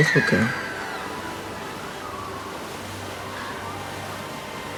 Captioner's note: distant screams